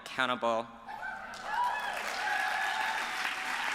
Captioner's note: applause